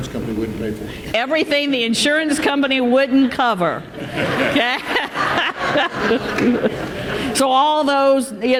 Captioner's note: laughter